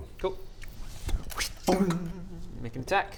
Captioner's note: wsst...THUNK